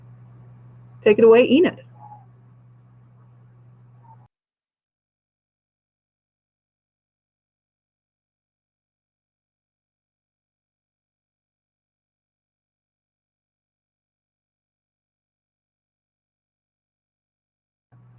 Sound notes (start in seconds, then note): 4.3 pause